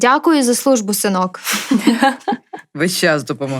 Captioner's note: laughter